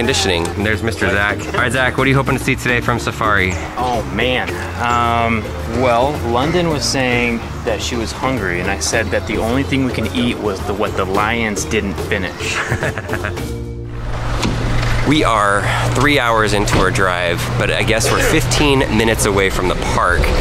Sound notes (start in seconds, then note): 12.5 laughing